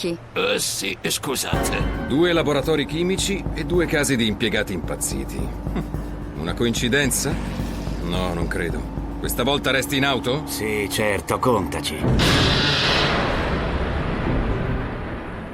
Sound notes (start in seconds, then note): 12.0 loud banging